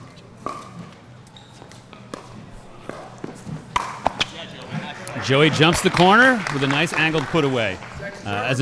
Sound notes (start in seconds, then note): 4.7 applause